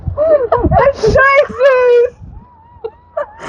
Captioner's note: laughing; yells; laughing